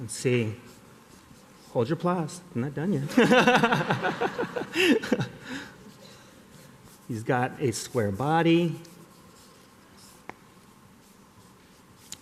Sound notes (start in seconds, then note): 3.0 laughter